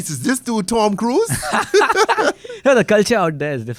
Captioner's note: laughs